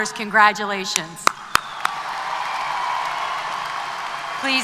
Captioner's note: applause